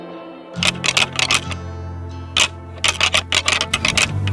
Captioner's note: antlers rattling